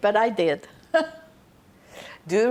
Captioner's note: laughing